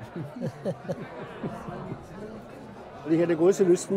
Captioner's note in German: Beide lachen leicht